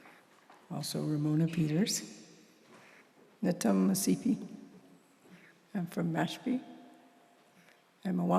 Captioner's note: non-english